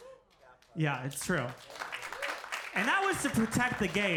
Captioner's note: audience applauding